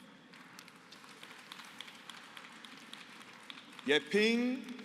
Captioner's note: applause